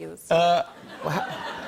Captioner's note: laughter